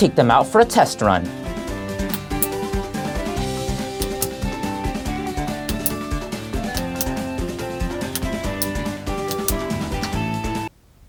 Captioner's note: button clicking intensifies; awkward silence